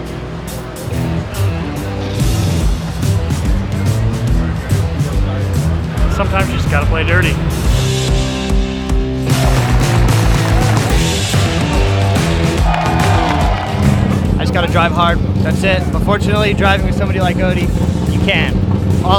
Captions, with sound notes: (bouncy music) - Sometimes you just gotta play dirty. (bouncy music) (audience claps and cheers) - I just gotta drive hard, that's it. Unfortunately, driving with somebody like Odi, you can.